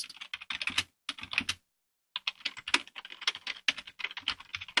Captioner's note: keyboard typing